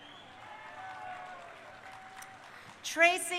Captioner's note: crowd cheering